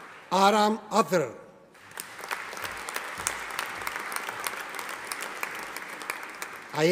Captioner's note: audience applauding